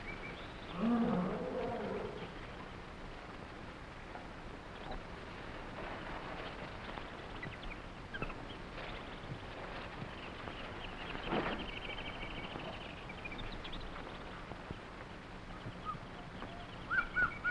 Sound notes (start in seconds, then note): 0.7 gorillas groaning; 0.9 animals chattering; 6.8 plants rustling